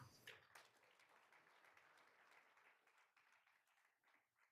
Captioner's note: all applauding